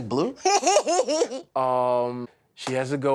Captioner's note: laughs